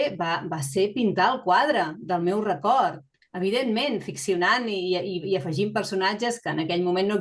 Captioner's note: continues speaking in Catalan